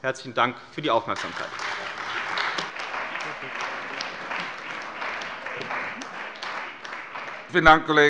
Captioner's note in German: Beifall bei der CDU und dem BÜNDNIS 90/DIE GRÜNEN